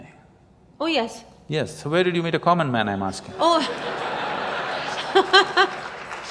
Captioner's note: laughter